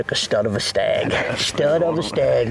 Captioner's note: laughing